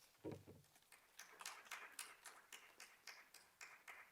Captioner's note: applause